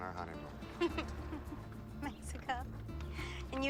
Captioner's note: laughing